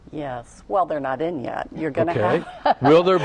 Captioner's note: laughter